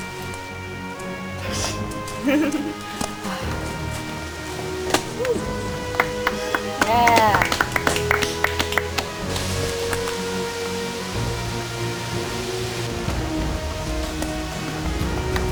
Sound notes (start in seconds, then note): 6.4 clapping